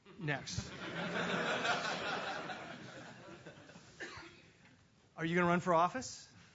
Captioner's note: laugh